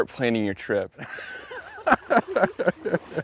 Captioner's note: laughter